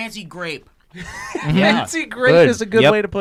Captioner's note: laughing